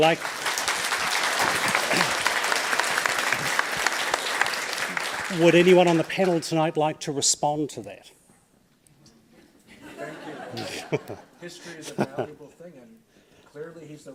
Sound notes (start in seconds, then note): 0.0 audience applauds; 9.7 audience laughs